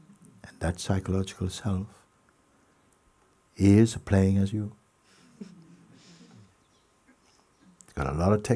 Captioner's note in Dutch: gelach